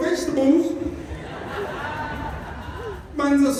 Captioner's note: laughter